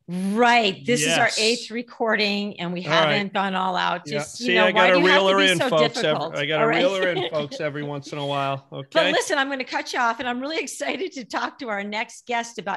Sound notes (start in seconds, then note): 4.8 laughing